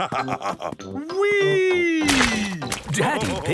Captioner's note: splashes